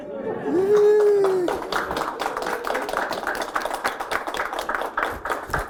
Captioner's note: applause